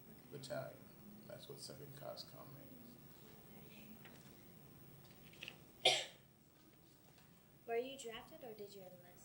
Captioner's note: coughs